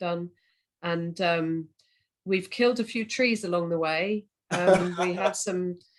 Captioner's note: laughter